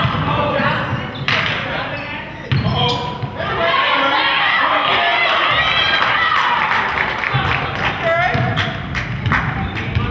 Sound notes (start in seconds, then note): 5.2 crowd claps